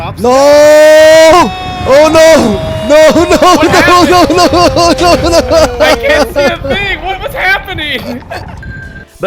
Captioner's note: sobbing